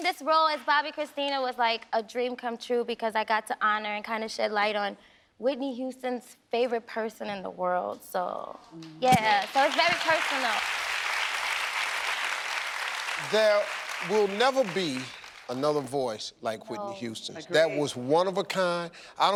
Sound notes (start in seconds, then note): 9.3 audience applauding